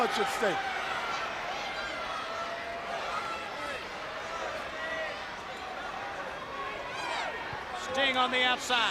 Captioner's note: crowd chatter